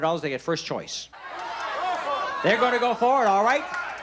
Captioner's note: shouts